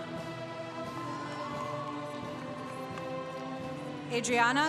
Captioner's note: congregation cheering